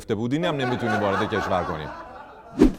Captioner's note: laughter